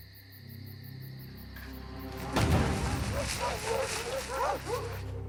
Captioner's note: dogs barking